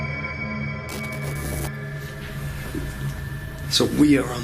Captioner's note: electrical buzzing